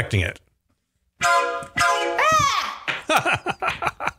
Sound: train whistle sound; wife screams from other room

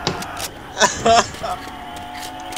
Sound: laughs in a coughing way

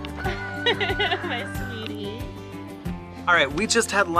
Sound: laughs

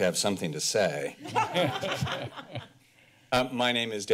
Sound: laughter

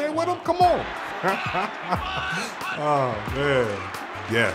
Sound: laughing

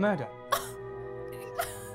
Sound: scoffs

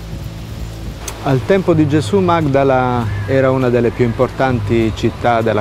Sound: speaking in foreign language

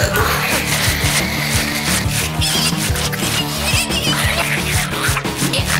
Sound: scratching sounds

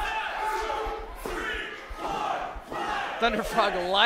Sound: crowd

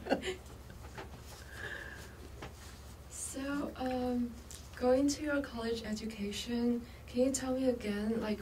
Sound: laughs; laughs

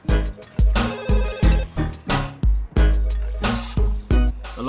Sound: phone ringing

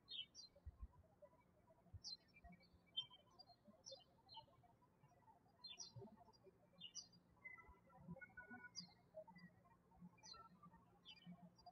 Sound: birds chirping

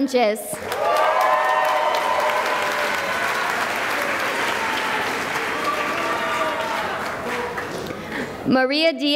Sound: cheering and applause

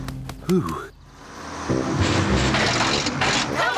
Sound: bus splutters

